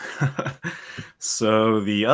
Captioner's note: laughs